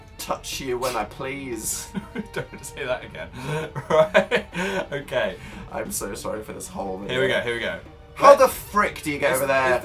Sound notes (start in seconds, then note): 3.3 laughs more; 3.3 flustered laughs